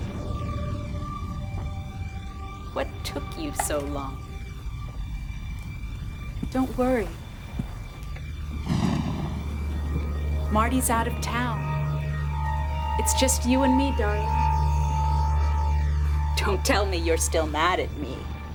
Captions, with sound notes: (somber synthesizer and string music) What took you so long? Don't worry. (thunder crashing) Marty's out of town. It's just you and me, darling. (somber synthesizer and string music) Don't tell me you're still mad at me.